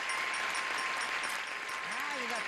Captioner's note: bell dinging; audience applauding